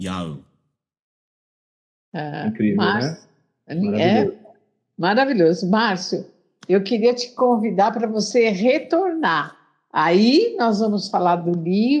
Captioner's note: Speaking Hebrew